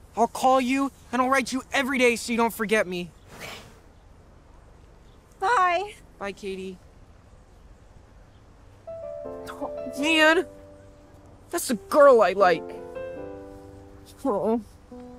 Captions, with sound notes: I'll call you, and I'll write you every day so you don't forget me. *soft voice* Okay. Bye! Bye, Katie! Oh man! That's a girl I like. Oh.